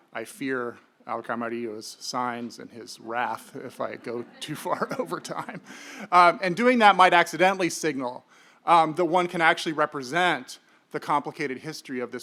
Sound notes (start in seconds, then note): 3.6 audience laughing